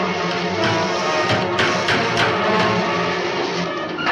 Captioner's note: hammer thuds; dramatic music continues